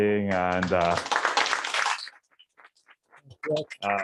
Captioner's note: applause